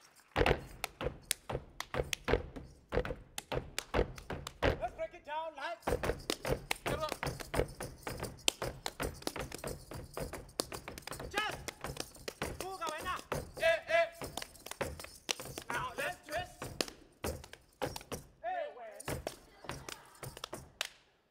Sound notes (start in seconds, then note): 0.0 feet stomping and hands clapping; 11.3 speaking language other than English; 14.3 feet stomping and hands clapping; 21.1 hands clapping